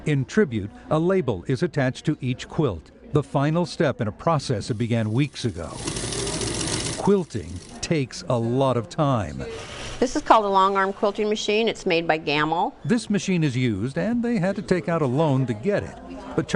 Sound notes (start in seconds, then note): 5.2 sewing machine whirring